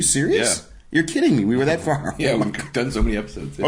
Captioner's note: laughing